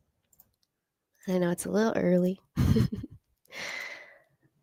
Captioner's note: chuckles